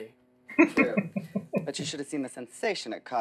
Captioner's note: chuckling